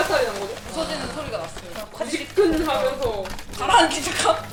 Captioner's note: smashing sound